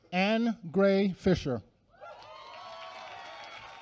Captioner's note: applause